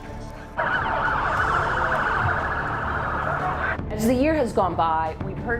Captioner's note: sirens blaring